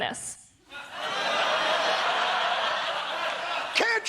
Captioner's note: laughter